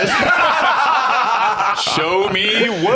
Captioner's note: all laughing